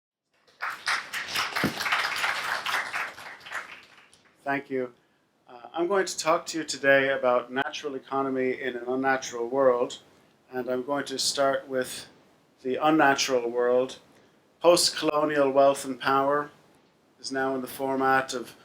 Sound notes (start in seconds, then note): 0.4 applause